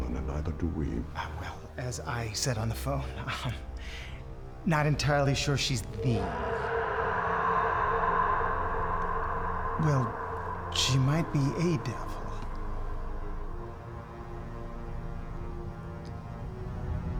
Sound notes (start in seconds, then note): 6.3 Mirabeth screaming; 13.2 dramatic suspenseful music